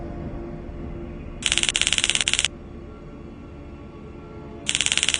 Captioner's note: electronic crackling; electronic crackling